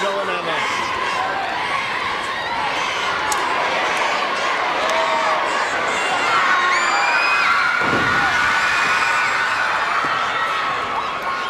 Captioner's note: crowd cheering